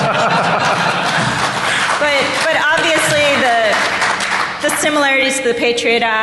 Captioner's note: laughter